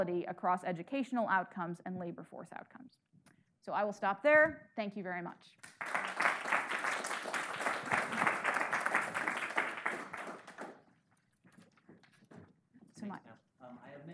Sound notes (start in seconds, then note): 5.6 audience applauding